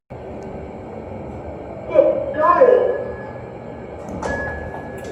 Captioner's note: ding